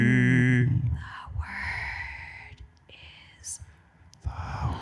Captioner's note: whispering